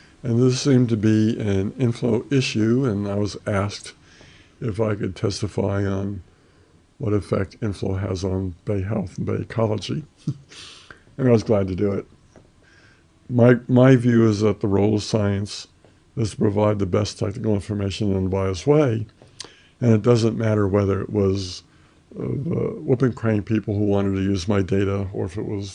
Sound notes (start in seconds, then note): 11.0 laughs